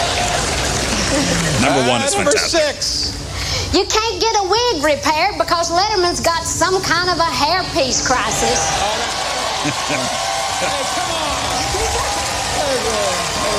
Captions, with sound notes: Number 1 is fantastic. You can't get a wig repaired because Letterman's got some kind of a hairpiece crisis. [APPLAUSE] Hey, come on. There we go.